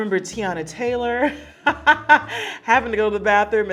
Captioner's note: Serena laughing